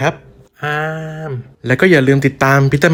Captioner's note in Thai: เสียงป้อนอาหาร